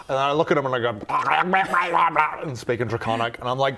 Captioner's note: fluent Draconic